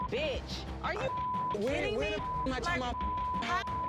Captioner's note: beep